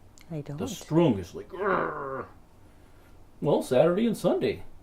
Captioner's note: growls